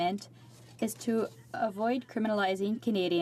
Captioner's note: speaking French